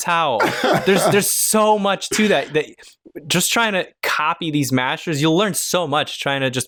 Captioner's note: laughter